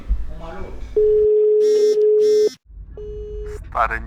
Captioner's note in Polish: dzwoniący telefon